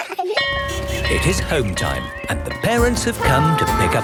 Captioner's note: laughter; bell clanging